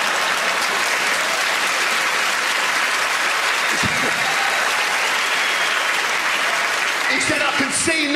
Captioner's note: audience laughter and applause